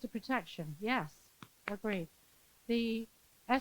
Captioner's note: claps